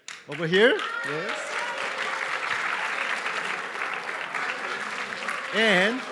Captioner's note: applause